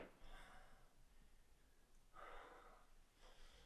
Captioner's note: Jacob panting